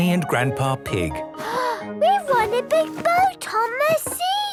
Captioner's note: gasps